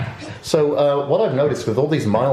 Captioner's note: laughs